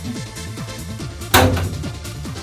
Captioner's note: pop